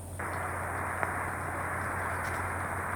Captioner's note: static